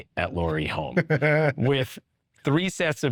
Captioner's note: chuckling